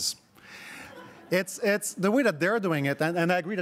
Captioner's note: crowd laughing